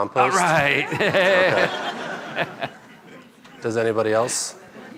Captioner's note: laughing